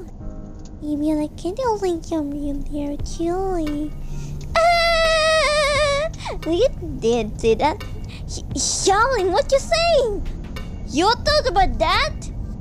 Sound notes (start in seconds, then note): 0.1 whisper cracking jokes; 4.6 laughing